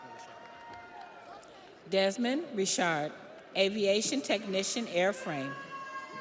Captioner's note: audience cheers; audience applauds